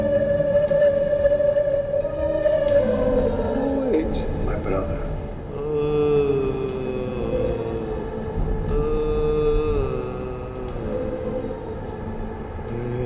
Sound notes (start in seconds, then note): 0.2 mysterious music; 5.8 man groans